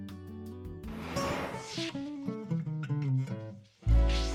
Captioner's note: whoosh; whoosh